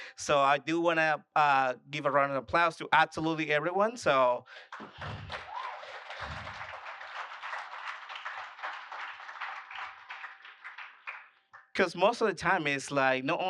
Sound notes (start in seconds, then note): 4.5 applause